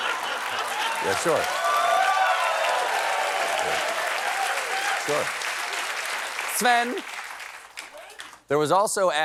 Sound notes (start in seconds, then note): 3.5 applause